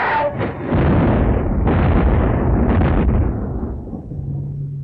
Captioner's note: cannons booming